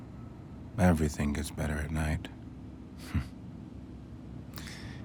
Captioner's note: chuckles